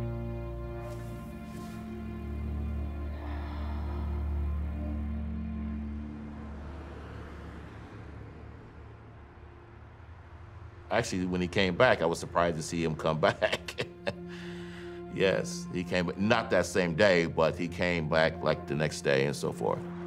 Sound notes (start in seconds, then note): 7.2 cars whooshing; 13.1 chuckles